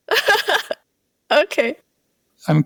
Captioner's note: laughter